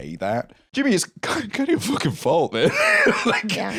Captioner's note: laughs